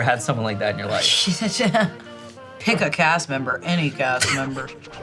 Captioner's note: laughing